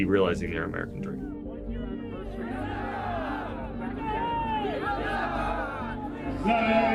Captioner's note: Taliban soldiers cheering; pashto on the loudspeaker